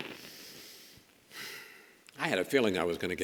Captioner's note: Chris sighs